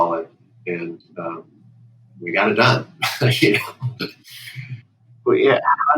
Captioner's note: laughter